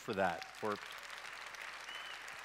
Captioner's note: clapping